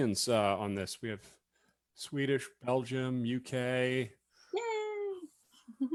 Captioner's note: giggles